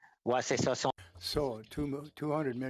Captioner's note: speaking French